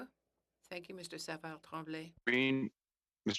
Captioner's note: speaking French